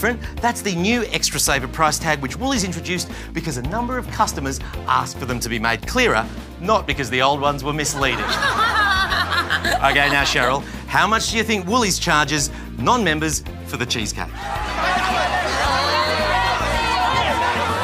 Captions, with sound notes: That's the new Extra Saver price tag which Woolies introduced because a number of customers asked for them to be made clearer, not because the old ones were misleading. (Laughs) OK, now, Cheryl, how much do you think Woolies charges non-members for the cheesecake? (Audience barracks) Uh...